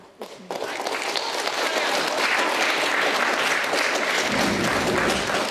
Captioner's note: audience applauding